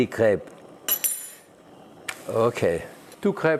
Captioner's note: fork clattering